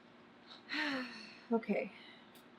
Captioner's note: sighs